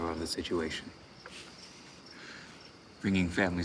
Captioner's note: laughs